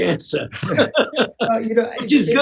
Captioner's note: laughter